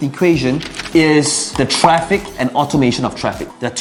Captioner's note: paper crumpling; bubble popping